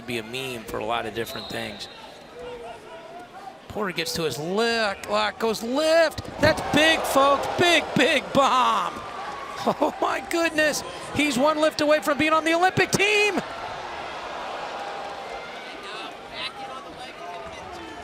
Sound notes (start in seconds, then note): 3.2 crowd cheering; 6.8 crowd gasps; 14.4 crowd gasps and cheers